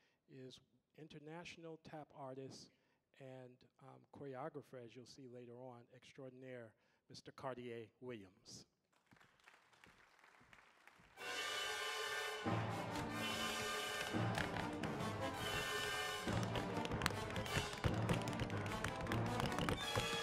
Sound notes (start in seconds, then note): 9.3 audience applauding; 12.0 dramatic music; 16.2 energetic tapping